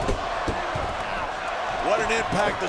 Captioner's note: crowd cheering